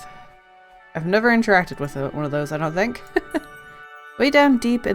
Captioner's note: laughs